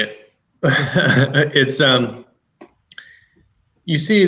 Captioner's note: chuckles